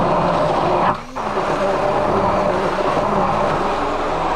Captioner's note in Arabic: طنين الخلاط